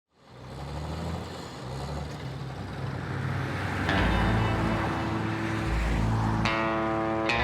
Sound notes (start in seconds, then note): 0.2 revving truck engine; 2.4 passing cars in the distance